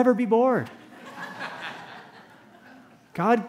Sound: laughter

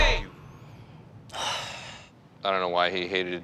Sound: people exclaiming; sighs

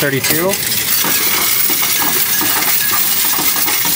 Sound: coins rattling

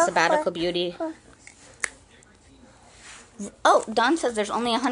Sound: child babbling and crunching

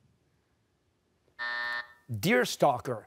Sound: buzzer

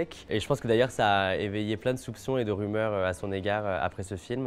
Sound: speaking French

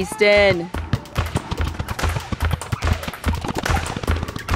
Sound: ball dribbling

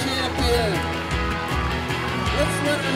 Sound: cheers

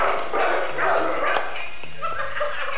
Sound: audible Air Clap

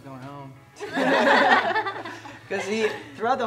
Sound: laughs

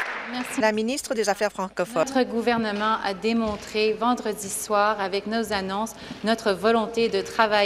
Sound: applause

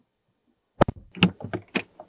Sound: door Thud

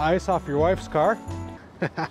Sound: laughs

